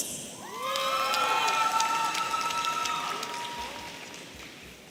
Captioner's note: audience cheering